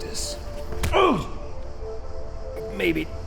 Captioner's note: John groaning